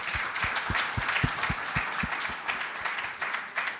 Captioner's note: applause